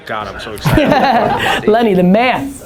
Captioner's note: laughter